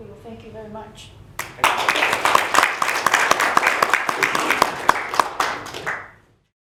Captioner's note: audience applauds